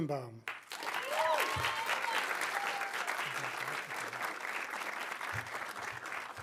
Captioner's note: audience applauding; audience cheering